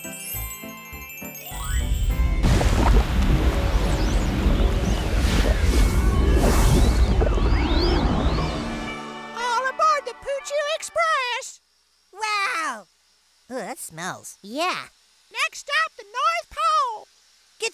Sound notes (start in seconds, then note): 0.0 chimes shimmer; 2.5 poo sloshing